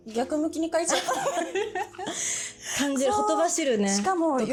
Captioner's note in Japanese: 笑い